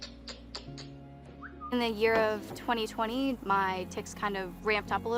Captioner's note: ticking